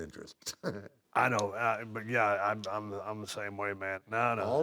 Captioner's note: laugh